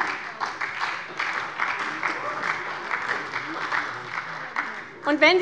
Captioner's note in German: Beifall bei der SPD